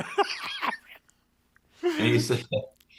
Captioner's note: laughs